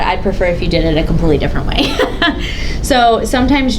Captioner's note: laughs